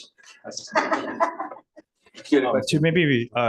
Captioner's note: laughter